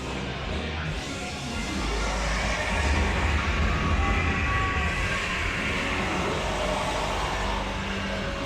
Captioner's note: monster groans